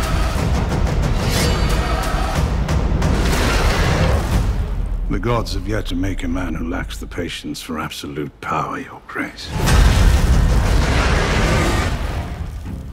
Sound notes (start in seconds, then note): 2.2 music climaxes; 10.7 dragon roars